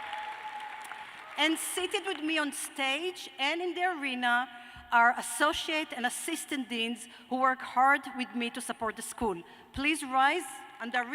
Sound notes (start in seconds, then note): 0.0 cheers and applause